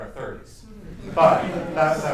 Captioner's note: laughter